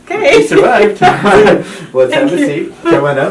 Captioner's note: laughing